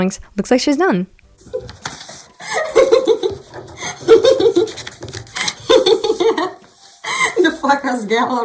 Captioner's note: A lot of hehehes